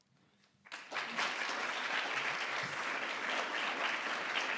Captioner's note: audience applause